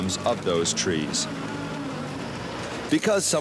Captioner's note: motor running